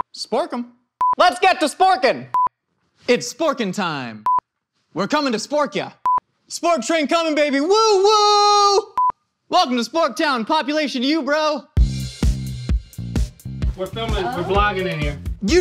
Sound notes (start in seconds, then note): 1.0 video beeps; 4.2 video beeps; 8.9 video beeps; 11.8 upbeat music